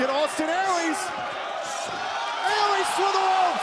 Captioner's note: crowd cheering